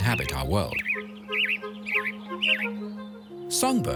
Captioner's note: bird sings